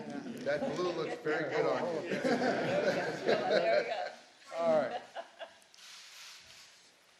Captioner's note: laughter